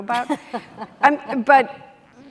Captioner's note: chuckles